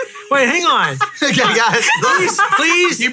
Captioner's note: laughing